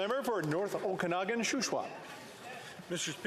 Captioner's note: some Applause